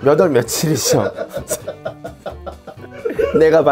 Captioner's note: laughing out loud